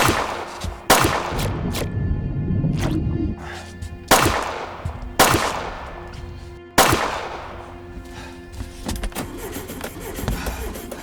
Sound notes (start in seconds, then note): 0.0 gunshots blasting; 3.1 engine sputtering